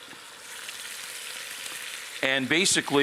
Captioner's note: meat searing